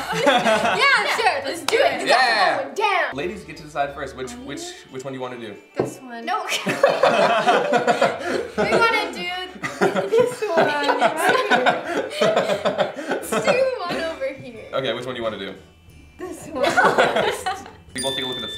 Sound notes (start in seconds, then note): 7.2 laughs